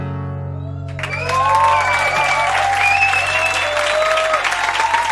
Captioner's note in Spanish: Aplausos y vítores